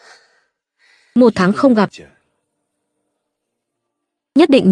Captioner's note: khịt mũi